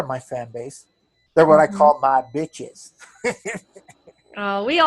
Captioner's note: laughs